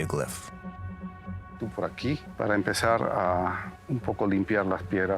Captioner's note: speaking Spanish